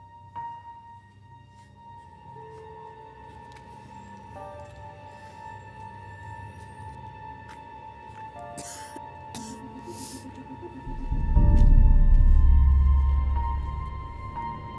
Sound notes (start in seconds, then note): 4.4 dramatic music; 9.3 coughs softly